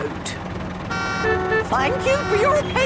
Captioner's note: cars honking